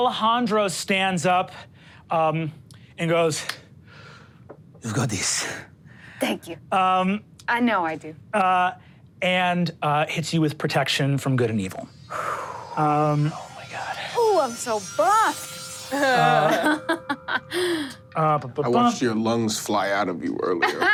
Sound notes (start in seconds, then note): 11.9 exhales; 16.1 laughs